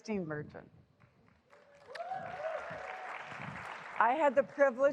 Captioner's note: applause